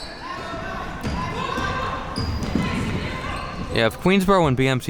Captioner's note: spectators shouting